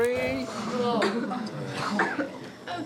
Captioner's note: coughing